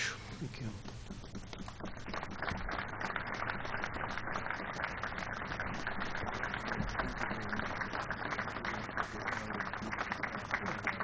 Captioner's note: applause